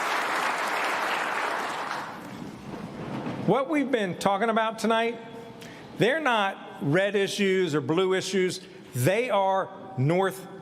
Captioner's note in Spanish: aplausos